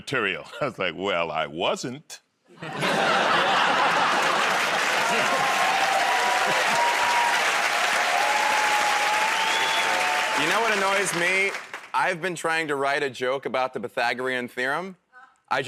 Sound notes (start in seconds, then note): 2.6 laughter; 6.6 cheers and applause